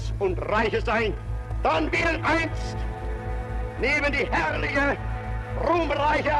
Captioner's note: Hitler continues speaking German